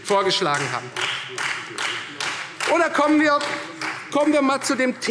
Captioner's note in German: Beifall